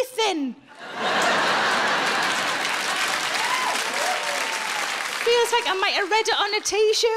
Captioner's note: audience laughing and applauding